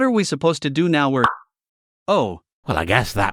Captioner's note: pop